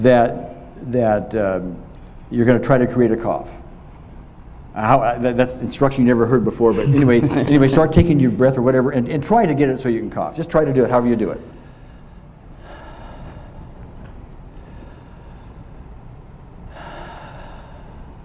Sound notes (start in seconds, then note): 6.6 laughs; 13.2 breathes deeply